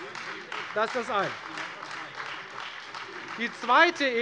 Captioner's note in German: Beifall Freie Demokraten und vereinzelt AfD